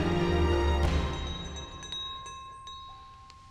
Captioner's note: bell rings